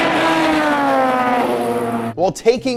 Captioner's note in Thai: เสียงคำรามของเครื่องยนต์